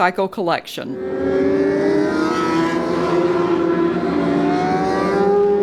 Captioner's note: motorcycle engines humming